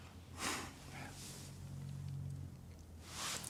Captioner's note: sighs